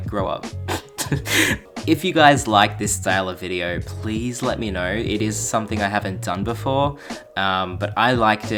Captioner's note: laughs